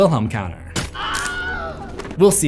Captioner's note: Wilhelm scream